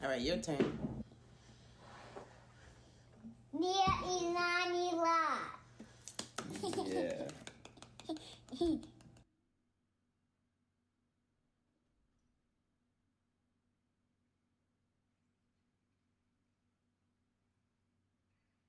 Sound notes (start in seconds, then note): 6.0 hands clapping; 6.5 chuckling